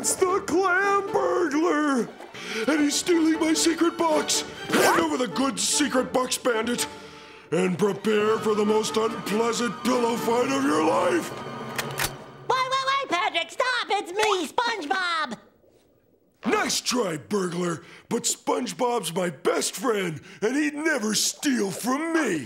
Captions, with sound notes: It's the Clam Burglar! And he's stealing my secret box! Hand over the goods, Secret Box Bandit, and prepare for the most unpleasant pillow fight of your life! [gun cocking] Wait, wait, wait, Patrick! Stop! It's me, SpongeBob! Nice try, burglar, but SpongeBob's my best friend, and he'd never steal from me.